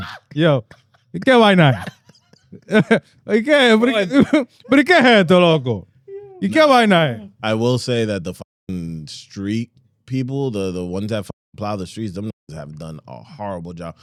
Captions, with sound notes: Yo, you can't lie now. (Laughing) (Speaking In Foreign Language) I will say that the street people, the ones that plow the streets, them have done a horrible job.